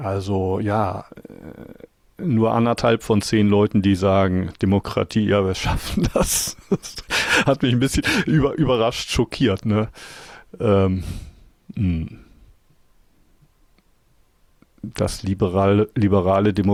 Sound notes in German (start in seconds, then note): 5.7 gelächter